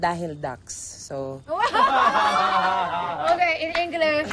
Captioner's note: laughing